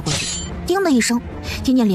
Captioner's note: ding